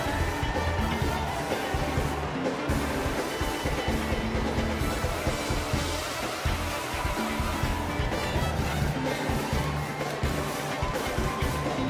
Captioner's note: applause